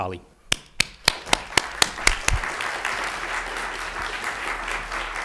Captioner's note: audience applauds